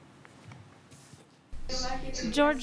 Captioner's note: speaking spanish